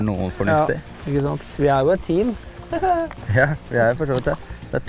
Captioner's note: giggle